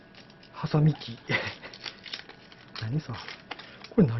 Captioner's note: laughter